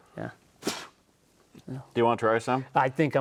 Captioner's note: spits